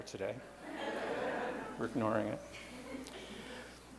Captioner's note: light laughter